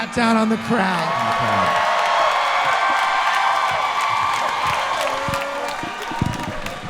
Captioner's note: audience cheering and clapping loudly